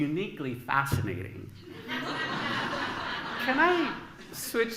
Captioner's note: laughter